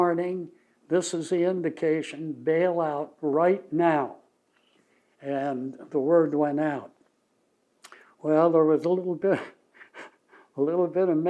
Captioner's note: laughs